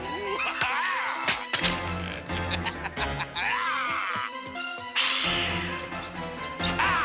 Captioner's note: Roger yells; Bruno laughs; knife clatters; Bruno yells